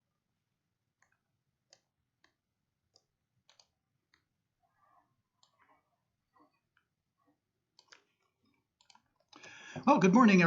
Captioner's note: silent